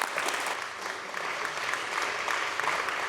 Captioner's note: applause